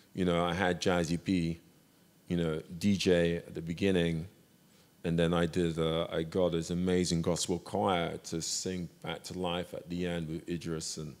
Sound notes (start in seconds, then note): none